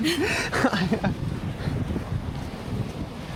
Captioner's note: laughter